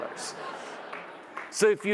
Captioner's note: audience laughs